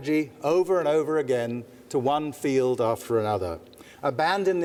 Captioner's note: none